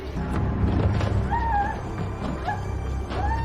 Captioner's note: screaming and sobbing; screaming